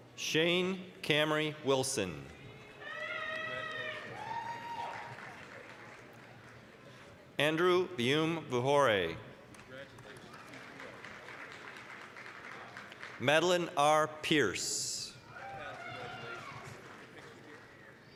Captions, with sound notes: Shane Camry Wilson. (applause, cheering) Andrew Vyumvuhore. (applause) Madelin R. Pierce. (applause, cheering)